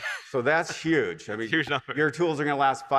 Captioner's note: laughs